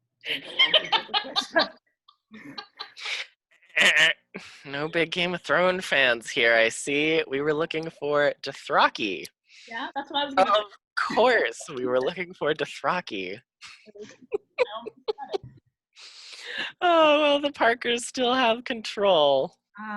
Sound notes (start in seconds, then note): 0.3 laughing; 3.6 buzzer sounds; 13.7 laughing